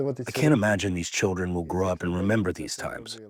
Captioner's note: through translator